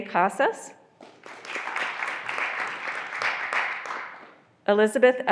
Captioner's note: graduands applauding